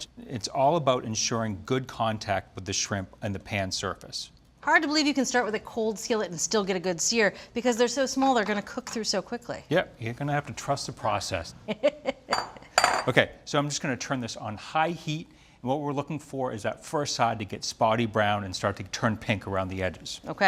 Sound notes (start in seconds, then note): 11.6 Julia chuckles